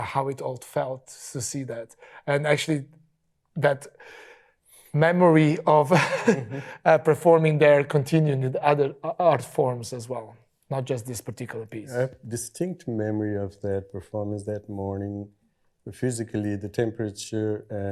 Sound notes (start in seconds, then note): 5.9 chuckles